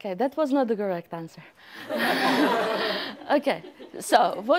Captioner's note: laughter